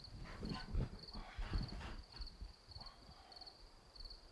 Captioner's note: Arawn exhales; insects chittering